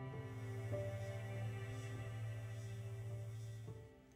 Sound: vibrating

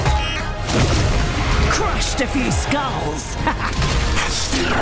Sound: chuckles

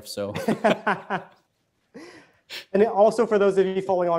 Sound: laughing

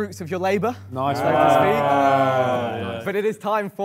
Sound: Sidemen fake laugh

